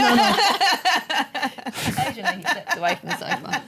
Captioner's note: laughter